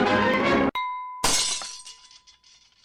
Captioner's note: glass Shattering